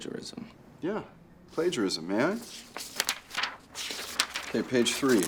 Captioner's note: paper rustling